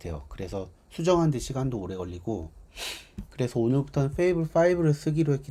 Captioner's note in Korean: 콧방귀